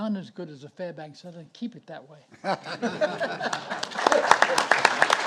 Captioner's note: audience laughing; audience applauding